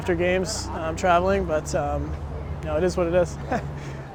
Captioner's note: laughs